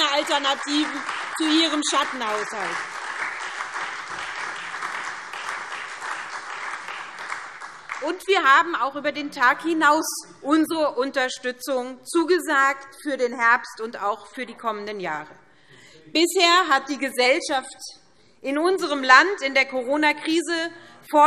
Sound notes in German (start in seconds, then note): 2.7 Beifall SPD und Freie Demokraten